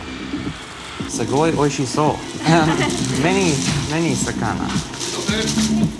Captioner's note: trying to speak Japanese